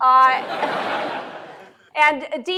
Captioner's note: laughter